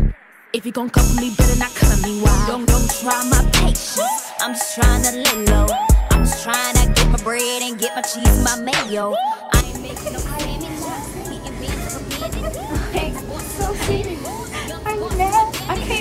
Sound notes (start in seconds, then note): 9.4 hip hop music; 12.0 laughing